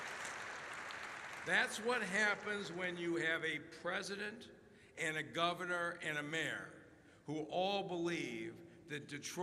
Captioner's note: applause